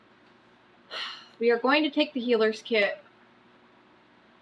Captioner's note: exhales loudly